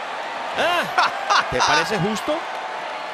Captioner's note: laugh